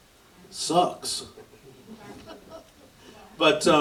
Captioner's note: light audience laughter